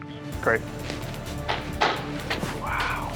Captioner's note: clapping